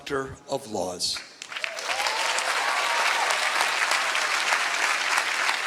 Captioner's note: applause